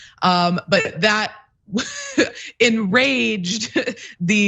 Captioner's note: laugh